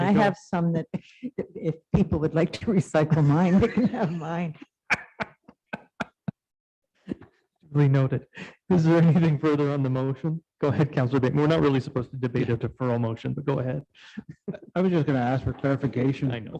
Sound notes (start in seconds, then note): 4.8 laughs